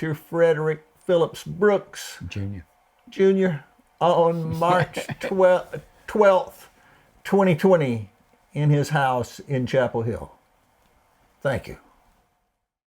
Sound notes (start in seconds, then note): 4.3 laughs